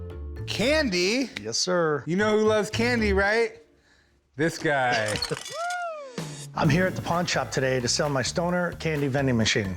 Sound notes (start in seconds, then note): 4.9 laughs